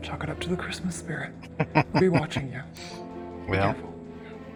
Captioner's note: chuckling